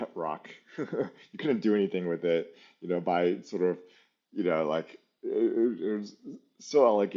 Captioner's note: laughs